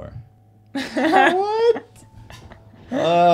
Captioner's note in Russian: смеется